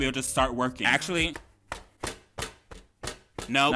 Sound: loud tapping

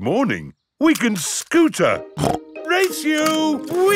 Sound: snorts

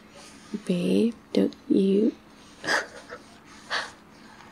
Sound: laughing

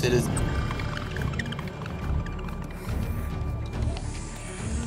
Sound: creatures clicking

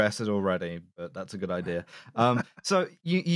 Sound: laughing

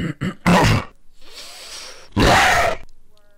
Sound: coughs incrementally louder; inhales, growls

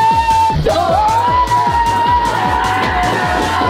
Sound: yelling

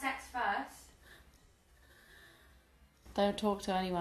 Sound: gasping

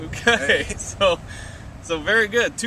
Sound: laughter

